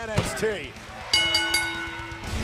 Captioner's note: bell ringing